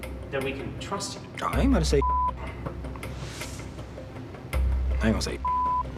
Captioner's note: beep